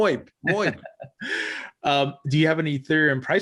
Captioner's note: laughs